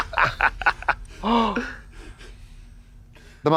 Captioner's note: puffs